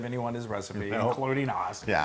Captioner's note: laugh